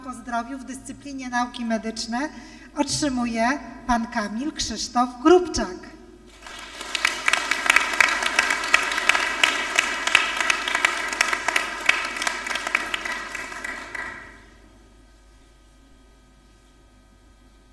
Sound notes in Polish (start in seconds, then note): 6.2 oklaski